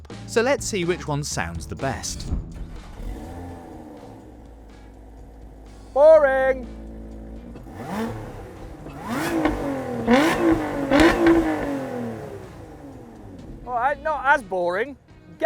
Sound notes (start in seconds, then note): 2.7 soft purr; 7.7 loud revs